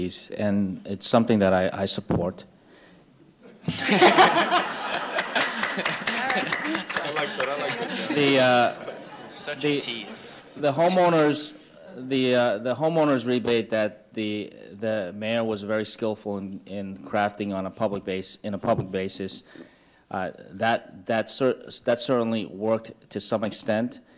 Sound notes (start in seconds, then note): 3.5 audience laughter